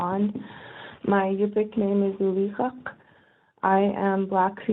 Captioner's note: speaking native language